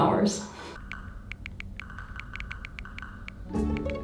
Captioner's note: buttons clicking; whimsical music